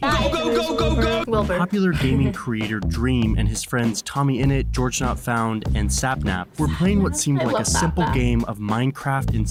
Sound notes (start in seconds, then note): 0.2 chuckles